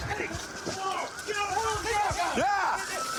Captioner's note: shouting